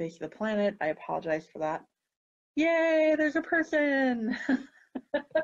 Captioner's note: laughing